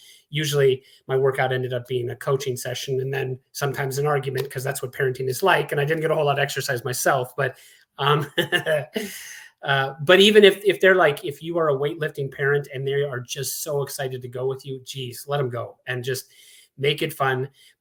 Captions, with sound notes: Usually, my workout ended up being a coaching session, and then sometimes an argument because that's what parenting is like, and I didn't get a whole lot of exercise myself. But-- [LAUGHS] but even if they're like-- if you are a weight-lifting parent and they are just so excited to go with you, jeez, let them go and just make it fun.